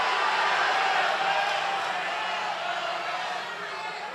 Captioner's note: applause